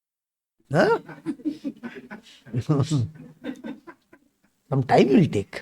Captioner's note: laughs